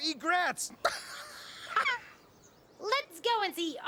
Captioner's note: Stinky laughing